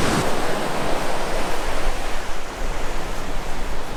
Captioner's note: waves crashing